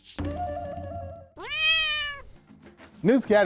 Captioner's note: cats meows